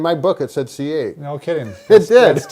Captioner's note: laughs